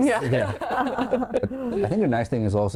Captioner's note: laughing